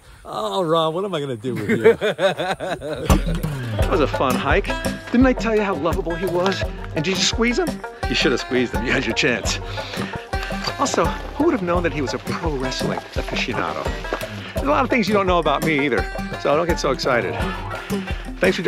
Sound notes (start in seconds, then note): 1.5 Ron laughing; 3.3 upbeat music